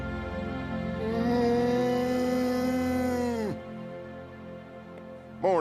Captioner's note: mournful mooing